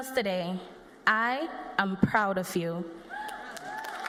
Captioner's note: cheers and applause